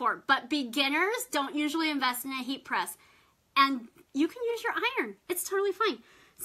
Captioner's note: none